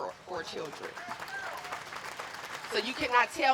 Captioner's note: applause